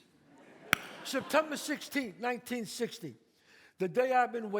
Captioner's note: audience laughs; claps